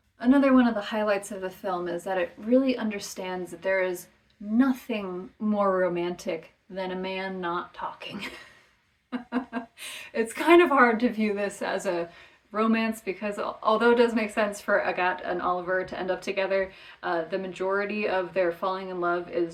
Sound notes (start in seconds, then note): 9.2 laughs